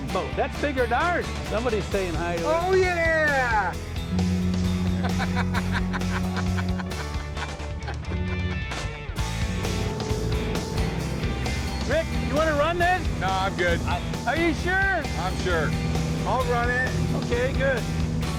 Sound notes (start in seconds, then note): 4.0 foghorn blares; 4.7 laughing